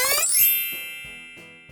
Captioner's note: sparkle sound